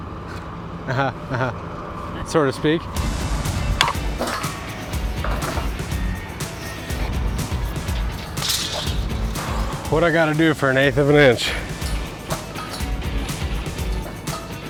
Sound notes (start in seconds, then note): 0.7 speaker laughs; 3.1 bright music; 8.2 tape measure clanks; 11.8 bright music